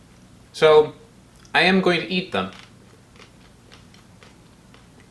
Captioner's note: crunching